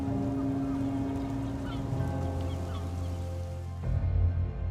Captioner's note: music builds; seagulls cry